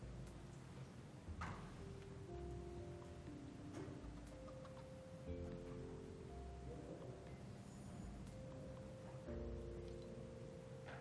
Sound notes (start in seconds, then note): 4.5 chickens clucking